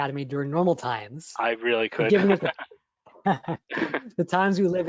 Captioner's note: laughter